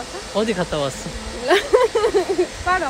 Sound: teasing hahaha

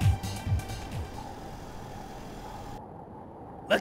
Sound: wind blowing

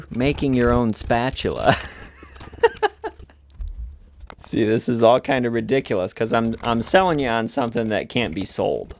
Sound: laughs

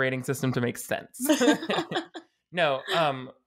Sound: both laughing

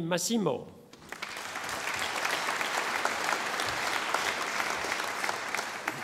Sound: audience applauding

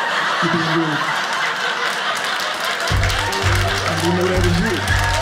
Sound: audience laughing

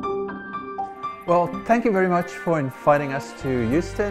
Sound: voiceover

